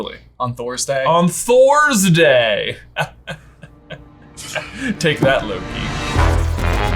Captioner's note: chuckles; dramatic music